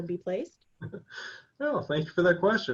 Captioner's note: chuckles